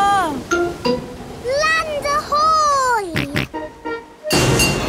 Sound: snorts

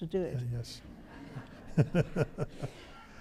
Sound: audience laughs; laughs

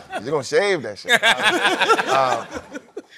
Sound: laughter

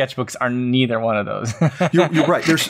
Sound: laughs

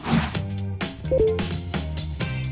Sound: swoosh; notification noise

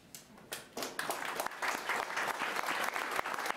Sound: applause

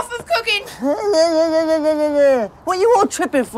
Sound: whimpering

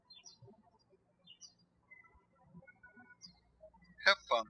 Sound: birds chirping

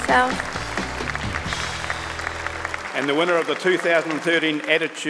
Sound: audience clapping

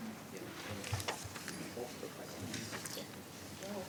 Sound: speaking faintly

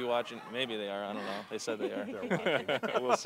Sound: laughing

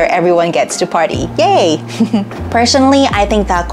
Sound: chuckles

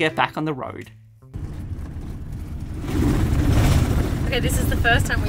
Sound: van bumping

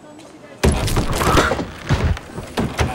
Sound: crunch, scream, thud

